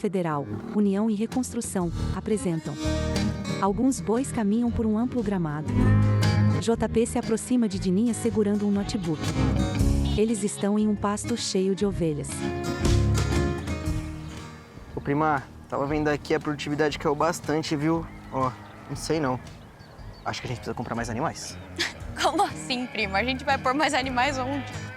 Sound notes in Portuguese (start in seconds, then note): 4.9 Mugidos